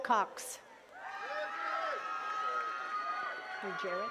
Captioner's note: attendees cheering and clapping